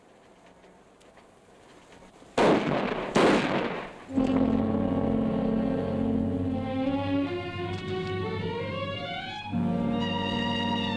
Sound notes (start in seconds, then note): 2.4 guns firing; 4.1 dramatic orchestral music